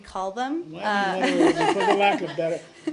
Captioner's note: laughter